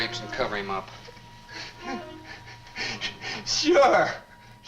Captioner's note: Jerry sobs